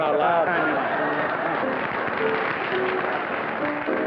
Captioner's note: laughter